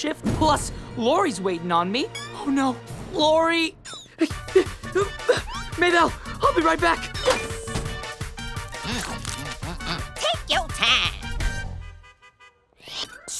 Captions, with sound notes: Plus Lori's waiting on me. Oh no, Lori! [grunting] Maybelle, I'll be right back. Take your time!